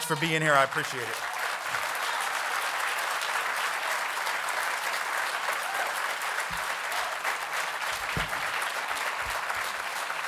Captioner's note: applause